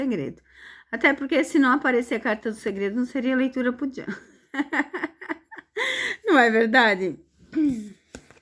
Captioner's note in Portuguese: risadas